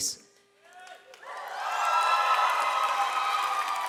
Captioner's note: audience cheers